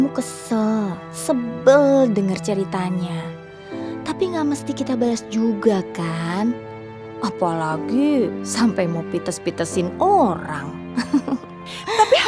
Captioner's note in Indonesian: tertawa